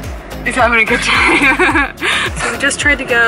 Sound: laughs

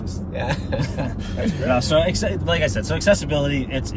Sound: group laughing

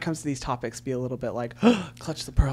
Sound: gasps

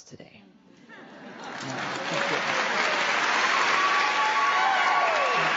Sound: applause

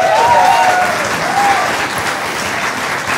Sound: applause

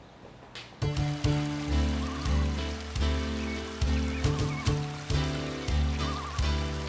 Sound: gentle upbeat music; birds chirping

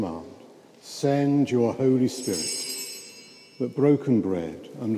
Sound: bell rings

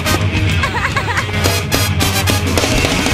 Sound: laughing

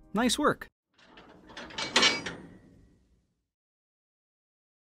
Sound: loud clattering

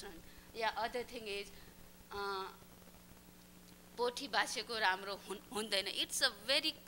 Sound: non-english speech

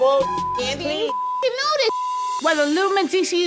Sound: beep

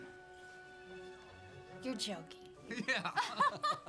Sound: laughs

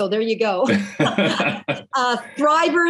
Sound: laughing

